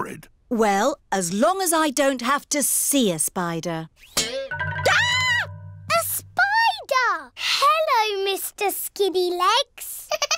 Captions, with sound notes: Well, as long as I don't have to see a spider. (SCREAMS) A spider! -Hello, Mr. Skinny Legs. -(GIGGLING)